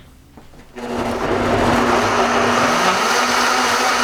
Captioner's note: whirring